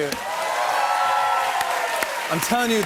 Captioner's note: cheers and applause